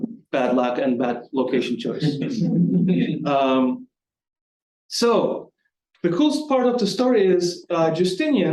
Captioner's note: light audience chuckling